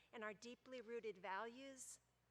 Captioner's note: none